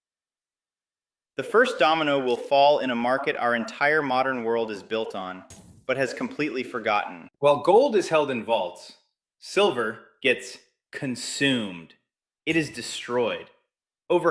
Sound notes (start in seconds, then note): 10.3 emphasis